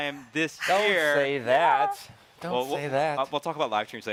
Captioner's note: sighs